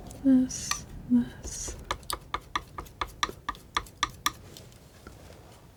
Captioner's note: tapping